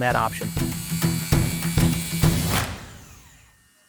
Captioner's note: saw buzzing